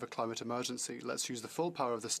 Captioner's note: speaking French